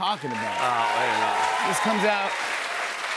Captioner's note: cheers and applause